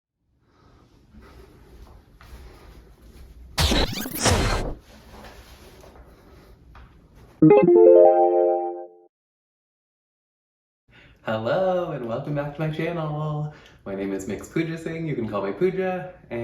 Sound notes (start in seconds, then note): 7.4 bright Chimes